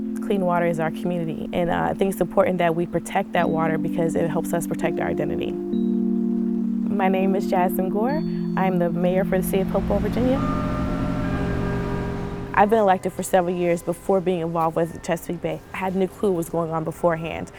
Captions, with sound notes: Clean water is our community and I think it's important that we protect that water because it helps us protect our identity. My name is Jasmine Gore. I am the mayor for the city of Hopewell, Virginia. [TRAFFIC RUMBLES AND CHURCH BELLS RING] I've been elected for several years before being involved with the Chesapeake Bay. I had a new clue what was going on beforehand.